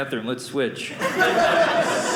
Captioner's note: audience laughing